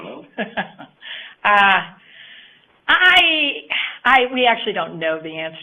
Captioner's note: chuckles